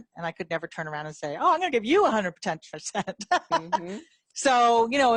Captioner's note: laughs